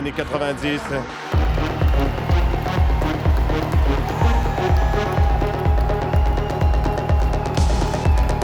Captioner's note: techno music; cheering